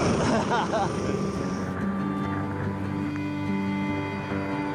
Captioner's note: rescuer laughing